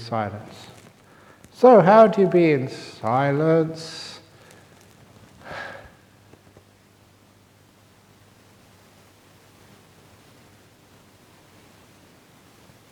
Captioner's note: silent